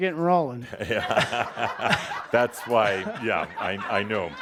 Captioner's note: laughter